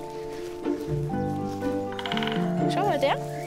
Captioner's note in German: Spechtklopfen